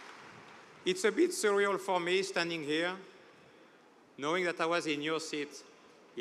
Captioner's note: cheers and applause